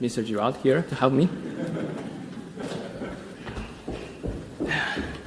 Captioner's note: audience laughing